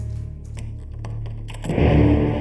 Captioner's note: key clicking; suspenseful music